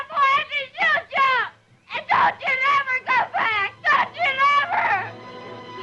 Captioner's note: screaming